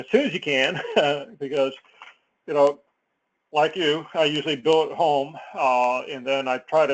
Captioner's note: laugh